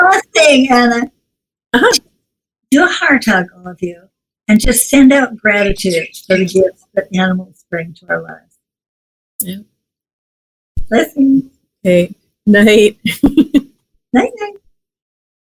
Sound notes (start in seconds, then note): 13.0 laughs